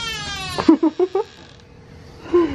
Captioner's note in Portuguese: risos